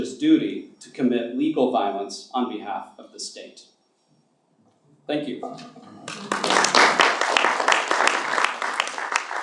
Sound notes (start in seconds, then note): 6.0 applause